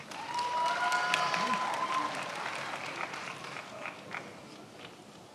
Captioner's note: attendees applauding and cheering